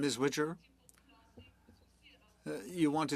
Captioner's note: speaking French